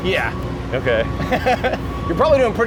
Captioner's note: laughs